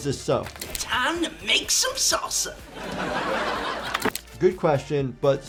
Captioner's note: viewers laughing